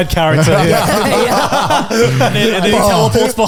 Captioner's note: all laughing